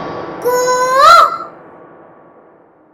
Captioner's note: Mimicking Cuckoo's voice